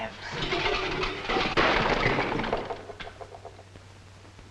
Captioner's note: metal clanging